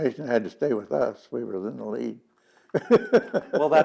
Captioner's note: laughs